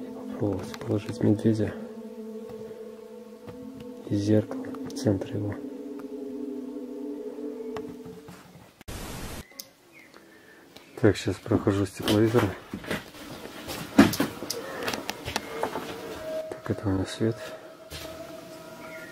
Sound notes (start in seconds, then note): 14.4 groan